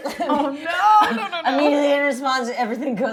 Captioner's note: laughing